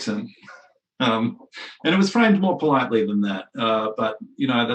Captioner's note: laughs